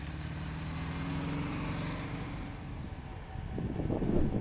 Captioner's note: car engine rumbles